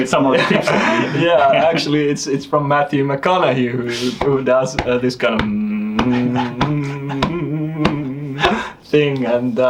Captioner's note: humming